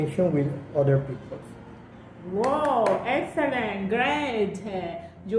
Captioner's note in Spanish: claps